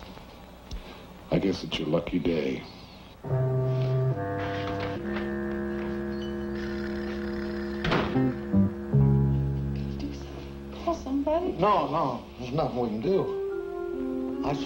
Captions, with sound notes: I guess it's your lucky day. (somber music) (door thuds close) - Go do something, Call somebody. - No, no. There's nothing we can do.